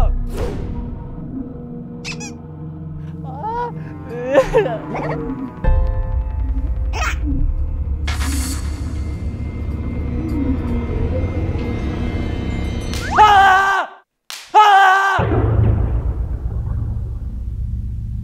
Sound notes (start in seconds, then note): 12.9 welcomed by bang snaps; 14.6 screaming out loud